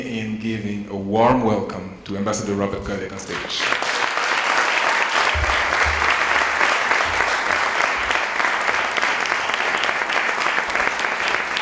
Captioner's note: applause